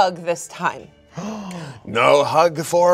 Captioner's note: gasps